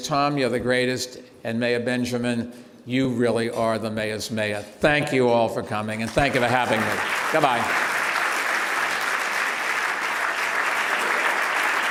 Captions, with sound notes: Tom, you're the greatest. And Mayor Benjamin, you really are the mayors mayor. Thank you all for coming and thank you for having me. Good bye. (applause)